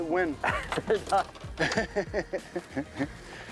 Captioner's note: laughter